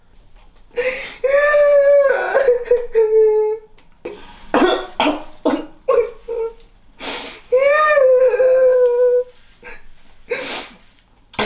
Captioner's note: sobs